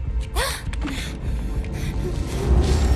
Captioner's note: frightened gasp